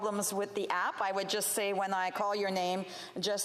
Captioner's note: speaking FRENCH